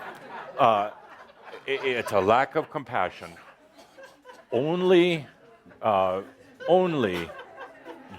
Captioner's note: laughter